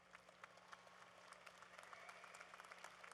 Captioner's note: applause